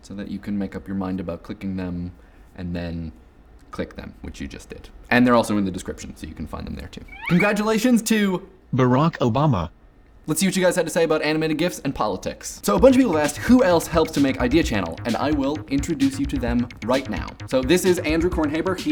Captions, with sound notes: so that you can make up your mind about clicking them and then click them, which you just did. And they're also in the descriptions, so you can find them there too. Congratulations to (ROBOTICALLY) Barack Obama. Let's see what you guys had to say about animated gifs and politics. So a bunch of people asked who else helps to make Idea Channel? And I will introduce you to them right now. So this is Andrew Kornhaber.